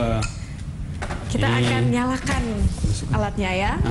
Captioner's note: non-english speech